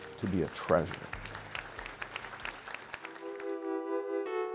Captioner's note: group applauding; upbeat music